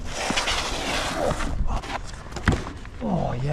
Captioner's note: shoes scraping; groaning